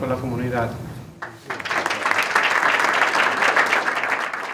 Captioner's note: applause